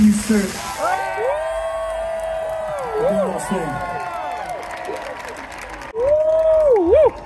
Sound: cheering

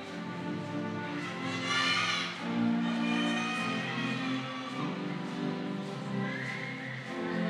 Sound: audience cheering

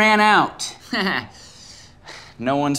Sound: chuckling humorlessly

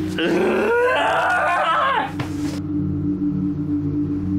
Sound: anguished screams

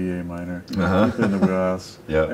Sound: laughs

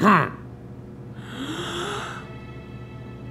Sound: clears throat; exhaling

